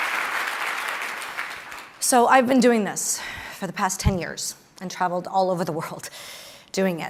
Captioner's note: applause